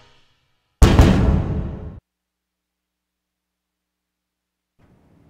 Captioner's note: fist pounding on table